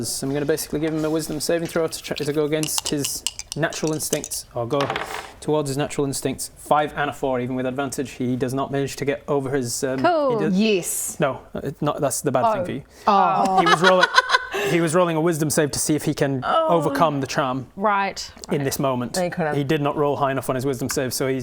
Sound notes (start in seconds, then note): 13.6 laughs in realisation